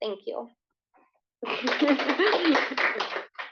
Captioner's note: applause